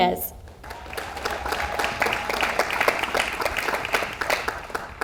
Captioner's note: audience applauds